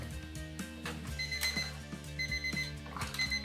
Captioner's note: timer goes off⏱️